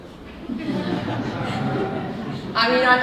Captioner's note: audience laughing